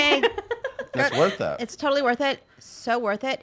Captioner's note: laughing